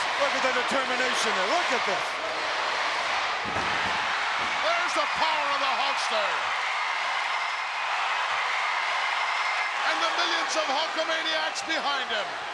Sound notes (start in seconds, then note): 6.2 crowd cheering